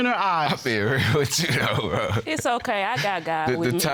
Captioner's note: laughing